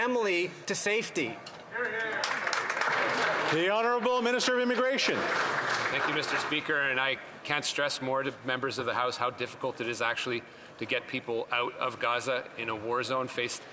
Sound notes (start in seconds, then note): 6.6 some Applause